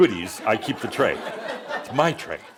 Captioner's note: laughter